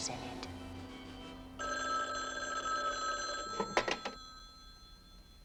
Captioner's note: phone rings